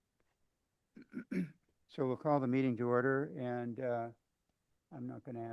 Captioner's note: clears throat